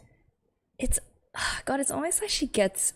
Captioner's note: sighs